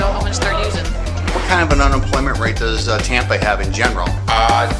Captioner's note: laughter